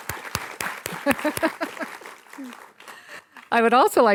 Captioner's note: laughs